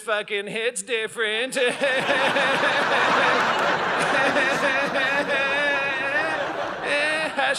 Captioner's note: audience laughing